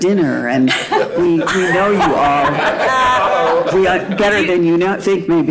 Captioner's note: panel laughing